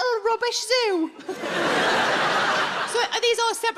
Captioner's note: audience laughs